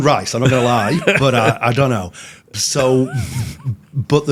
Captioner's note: hosts laughing